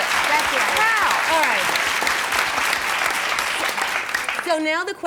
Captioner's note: audience applause